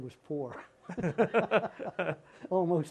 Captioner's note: laughter